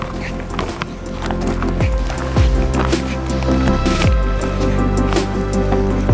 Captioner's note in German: Schritte auf Felsen